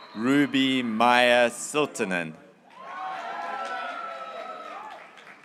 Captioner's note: graduates cheering